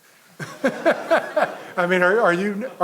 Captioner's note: audience laughing